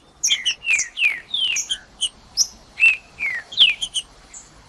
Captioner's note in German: trinca ferro cantando